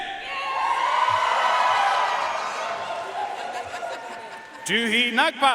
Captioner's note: audience cheering and applauding